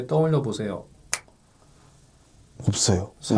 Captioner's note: snap!